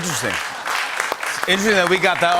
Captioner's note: cheers and applause